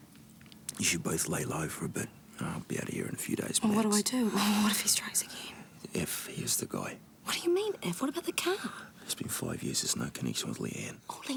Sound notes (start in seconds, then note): none